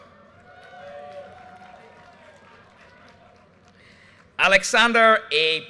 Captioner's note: audience cheers and applause